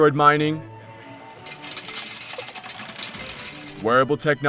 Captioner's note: sound of metal beads sliding into wheel